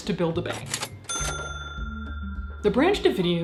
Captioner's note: register chimes